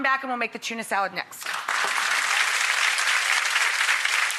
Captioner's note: applause